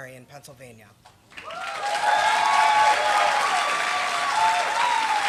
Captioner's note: applause